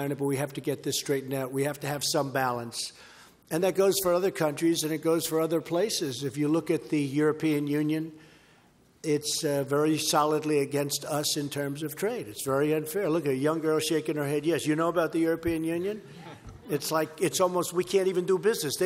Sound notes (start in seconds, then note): 16.1 laughter